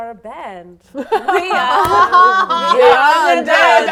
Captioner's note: laughing